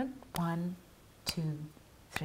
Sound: none

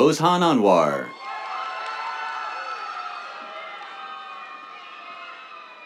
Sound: cheers, applause

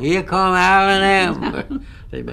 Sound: laughter

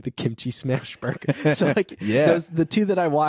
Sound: laughing

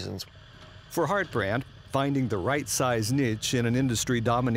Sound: voiceover

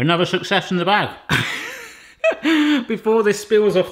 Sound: laughing

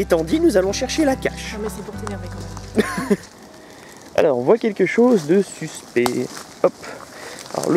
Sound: laughs

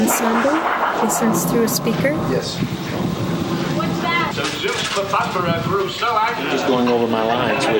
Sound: stage dialogue coming through speaker

